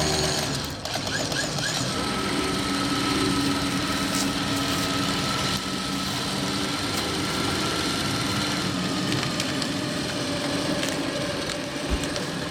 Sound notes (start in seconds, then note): 0.8 winch squeaking; 2.9 lift buzzing